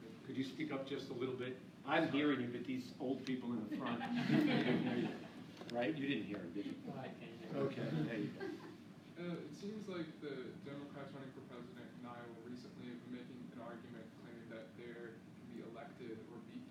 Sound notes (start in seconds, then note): 3.8 laughing